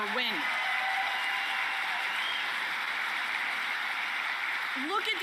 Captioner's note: applause